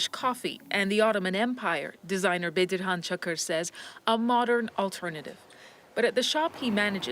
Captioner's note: speaking foreign language